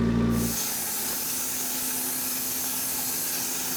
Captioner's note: saw whirring